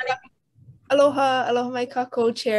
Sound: distorted sound

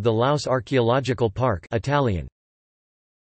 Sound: Italian

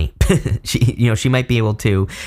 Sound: giggling

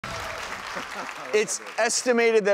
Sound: crowd clapping

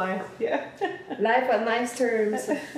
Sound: laughter

